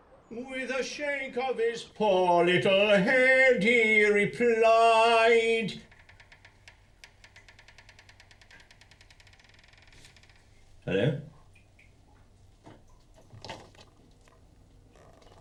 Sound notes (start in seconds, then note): 4.3 creaking; 11.9 water dripping